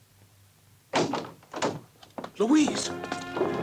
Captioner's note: door opens